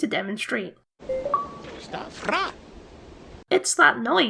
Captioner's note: bleep Bloop